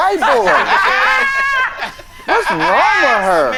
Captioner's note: all laughing